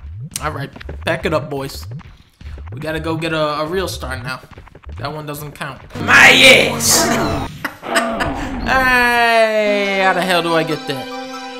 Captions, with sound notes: All right. Pack it up, boys. We gotta go get a real star now. That one doesn't count. MY ASS! [ laughs ] Aaaaaaayyyyyhow the hell do I get that.